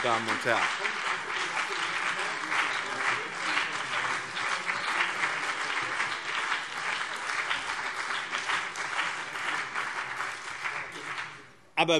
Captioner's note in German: Beifall BÜNDNIS 90/DIE GRÜNEN und CDU - Zurufe SPD